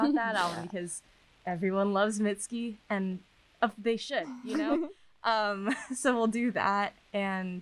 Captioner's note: laughter